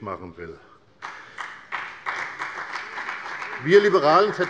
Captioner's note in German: Beifall bei der FDP und bei Abgeordneten der CDU